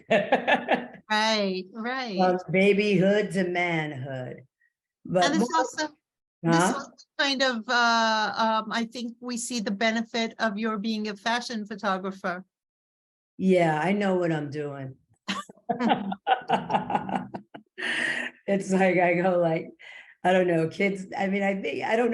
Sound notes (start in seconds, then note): 15.3 laughing